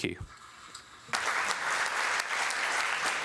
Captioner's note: applause